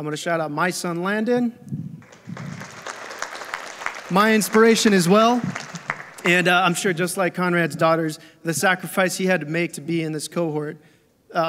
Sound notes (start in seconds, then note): 2.0 audience applauding